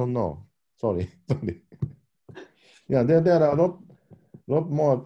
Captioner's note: chuckle